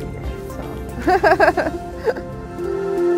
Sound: laughs; upbeat music

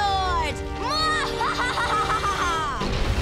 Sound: laughing

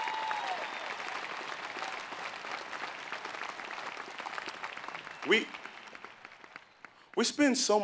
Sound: applause

